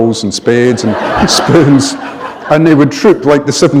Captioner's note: laughter